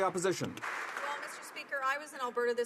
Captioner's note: some Applause